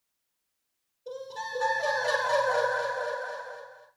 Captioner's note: cute sprite sound